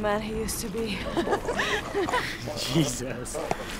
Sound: laughing

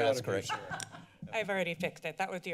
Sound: laughter

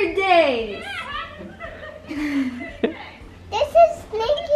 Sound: laughs

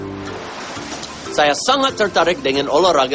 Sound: non-english speech

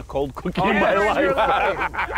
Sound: laughing

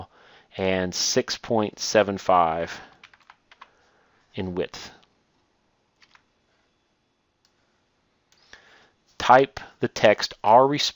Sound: typing

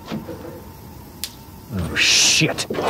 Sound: clicking

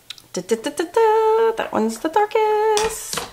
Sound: hums

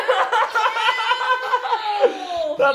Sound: dad laughs

